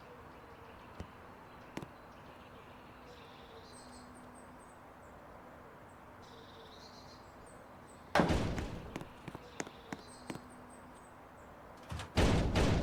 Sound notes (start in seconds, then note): 8.2 door opening